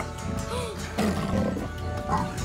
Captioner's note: growls